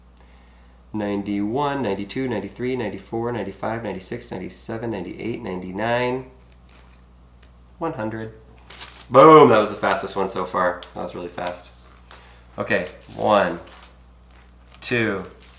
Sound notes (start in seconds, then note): none